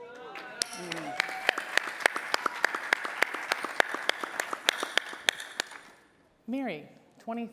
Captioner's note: applause